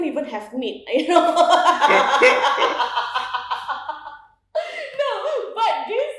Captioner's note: laughs